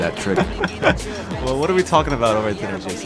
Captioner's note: laughing